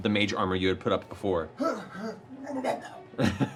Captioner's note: vomiting